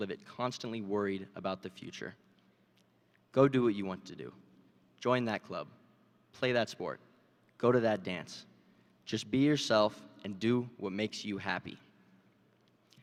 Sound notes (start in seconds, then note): none